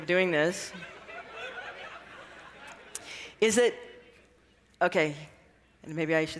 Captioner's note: laughter